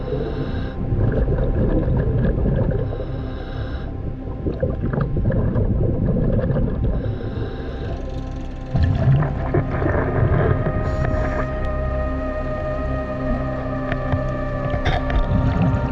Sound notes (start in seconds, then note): 0.2 underwater sounds; 8.3 boat engine humming; 12.2 intense music continues